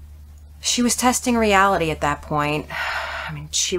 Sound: sighs

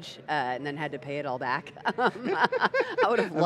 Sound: laughing

